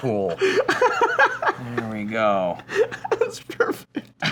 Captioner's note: hearty laughter